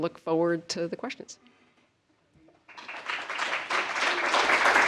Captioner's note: applause